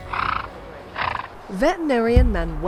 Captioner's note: horse snorting